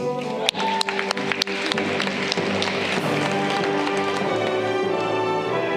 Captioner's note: audience clapping